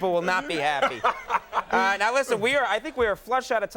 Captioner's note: Will laughing